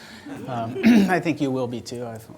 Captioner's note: audience laughter